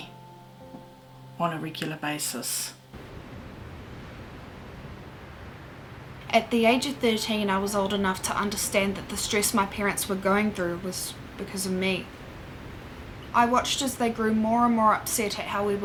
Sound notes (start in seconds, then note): 2.4 piano music plays; 3.0 sounds of waves crashing